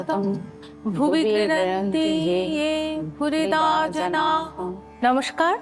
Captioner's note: chanting